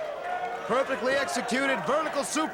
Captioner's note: crowd cheering